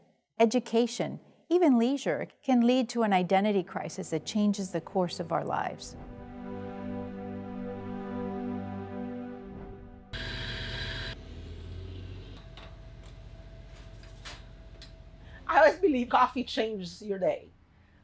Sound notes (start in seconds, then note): 6.7 soft music; 10.1 machine grinding